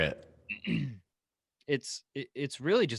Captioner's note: clearing throat